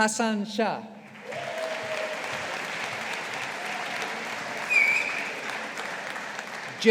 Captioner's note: audience applauding